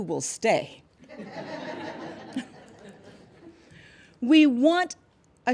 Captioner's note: laughter